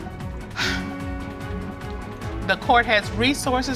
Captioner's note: sighs